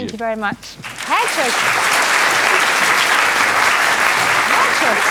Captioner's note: applause